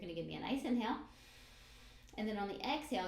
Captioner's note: breathes in